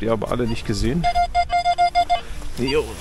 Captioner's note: squeaks